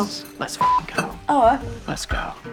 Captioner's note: beeps